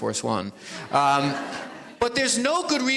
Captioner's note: audience laughs